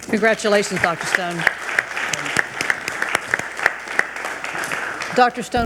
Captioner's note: attendees applauding